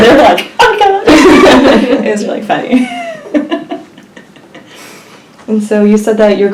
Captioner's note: laughs